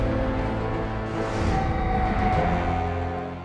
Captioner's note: screaming